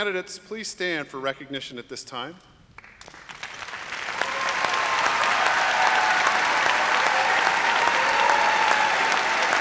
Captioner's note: applause